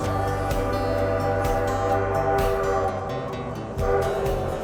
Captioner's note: train whistle howling